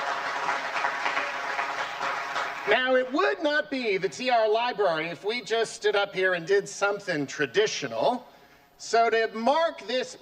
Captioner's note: applause